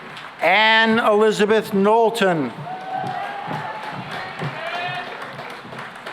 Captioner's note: cheering and applause